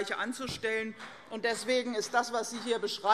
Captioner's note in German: Vereinzelter Beifall CDU